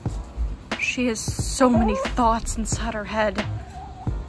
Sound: chicken noise

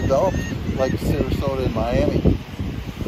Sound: seabirds crying

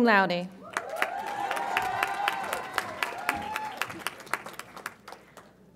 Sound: audience applauds and cheers

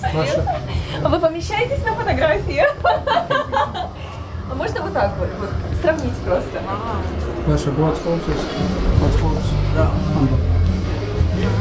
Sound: laughs

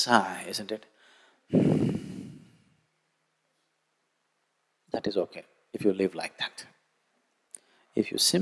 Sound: sighs

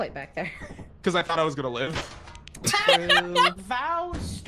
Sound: laughs

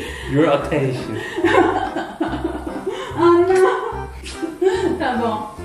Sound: laugh

